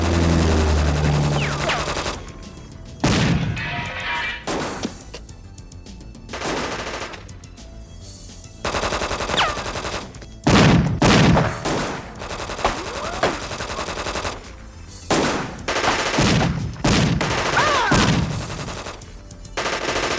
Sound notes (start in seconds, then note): 3.0 gunshot booming; 3.2 metal clattering; 6.3 gunshots booming; 17.6 man groaning